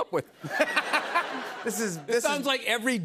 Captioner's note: laughter